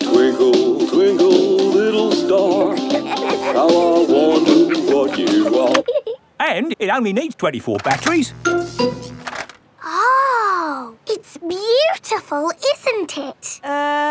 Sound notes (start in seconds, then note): 2.4 both giggling; 7.9 buzzing